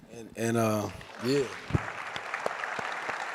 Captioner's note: applause